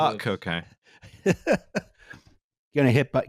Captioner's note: chuckles